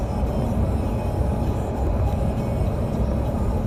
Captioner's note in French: Bruit de moteur de voiture